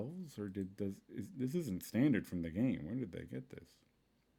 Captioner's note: stammering